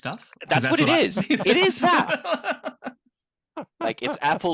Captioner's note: laughs